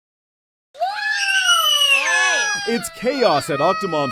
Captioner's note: kid screaming